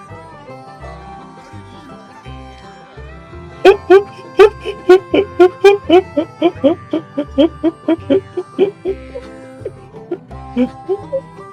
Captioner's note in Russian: безумный истерический смех